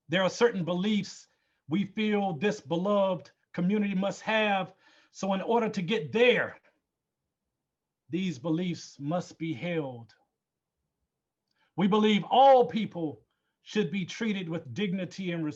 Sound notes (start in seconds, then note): none